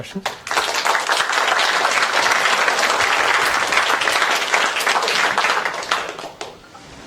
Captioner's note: applause